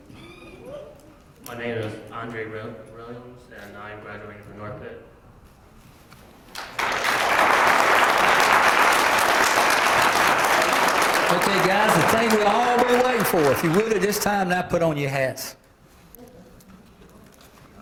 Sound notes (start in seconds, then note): 6.5 applause